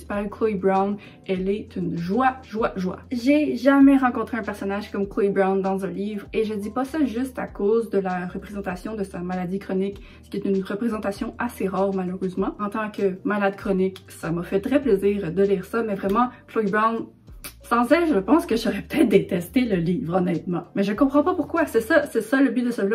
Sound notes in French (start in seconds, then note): 17.4 kiss